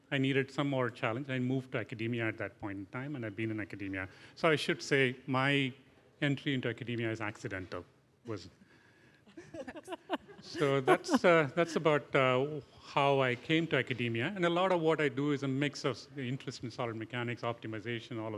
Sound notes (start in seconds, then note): 9.3 laughter